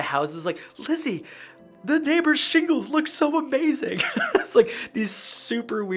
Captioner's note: laughs